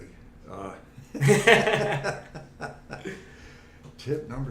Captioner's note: laughing